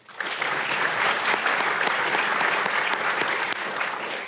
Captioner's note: audience applauding